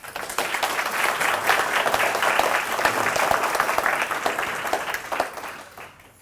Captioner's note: applause